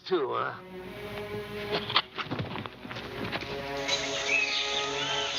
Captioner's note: chattering; dramatic music